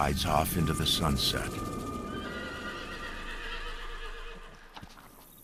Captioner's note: horse neighs